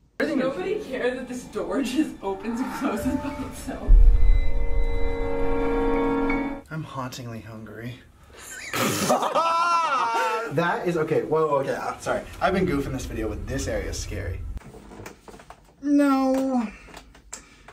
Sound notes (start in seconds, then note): 8.6 comically laughs